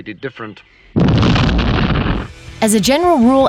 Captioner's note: explosion